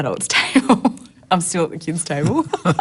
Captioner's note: laughs